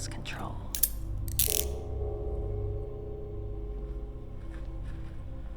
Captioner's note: handcuffs click; suspenseful music